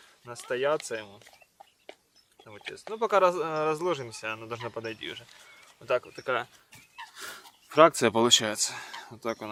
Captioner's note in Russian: фыркает